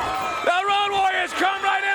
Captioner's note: crowd cheering